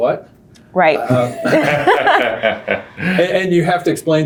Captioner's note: laughing